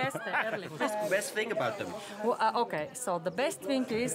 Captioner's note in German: Sprechen Englisch